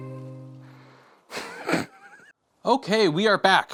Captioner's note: sad violin plays; chuckles